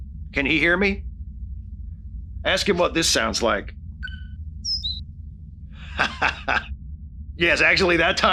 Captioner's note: tweeting sound